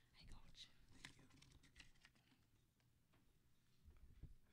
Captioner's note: whispering